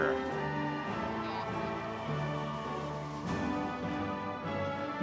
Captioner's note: audience members cheering